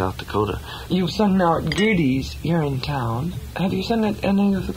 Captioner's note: voiceover